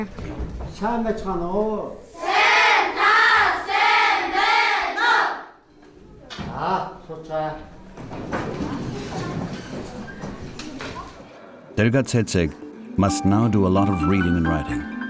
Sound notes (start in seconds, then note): 1.9 speaks together in foreign language